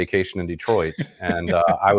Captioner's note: laughs